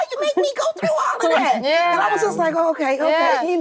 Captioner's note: actresses reacting